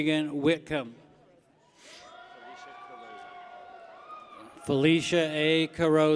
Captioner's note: people cheer